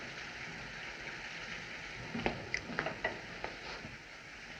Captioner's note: none